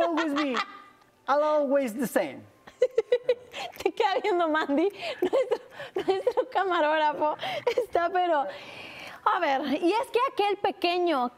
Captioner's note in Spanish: risas